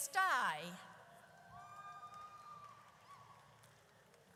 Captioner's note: audience cheers